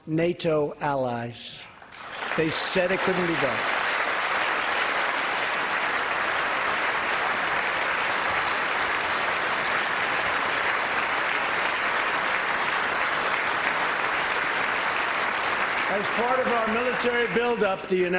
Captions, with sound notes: MORE THAN $100 BILLION OF INCREASE IN DEFENSE SPENDING FROM OUR NATO ALLIES. ( APPLAUSE )